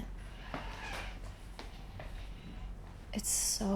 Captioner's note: footsteps tapping